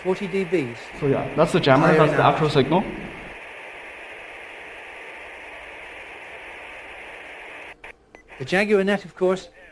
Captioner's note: radio